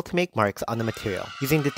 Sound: kids cheering

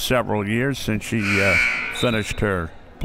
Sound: buzzer

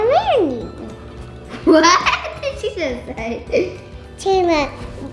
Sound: laughter

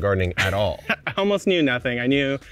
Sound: laughing

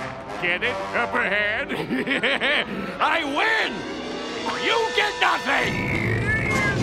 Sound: laughing

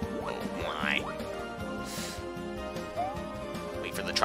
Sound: breathing

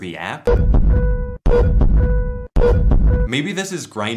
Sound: medical equipment noise

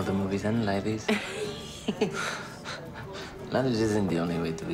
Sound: laughing

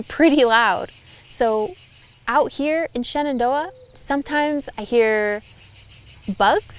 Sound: sounds of insects

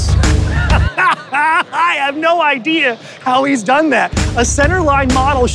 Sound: laughs

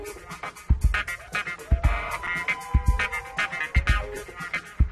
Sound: audience members cheer

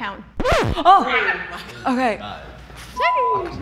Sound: record scratching

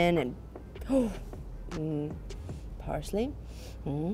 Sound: gasps

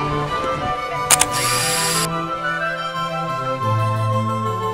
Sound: camera shutter

